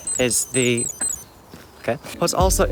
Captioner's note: watch beeps